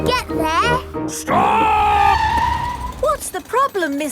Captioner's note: tires screeching